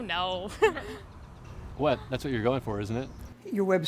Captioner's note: laughs